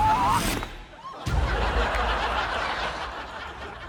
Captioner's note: clunk!; laughter